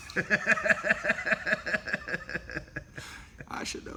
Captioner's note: laughter